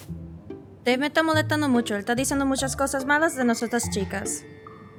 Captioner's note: speaking Spanish